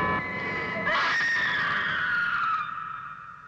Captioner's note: Barbara screams